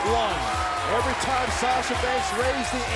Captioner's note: bell ringing